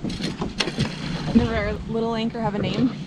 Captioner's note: water splashes